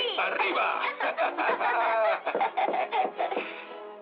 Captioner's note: laughing